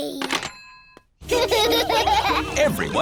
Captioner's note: children laughing